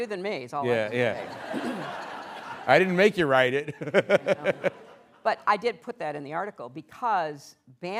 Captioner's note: laughter